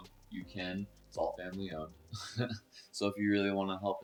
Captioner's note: laughs